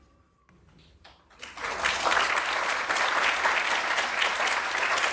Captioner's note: applause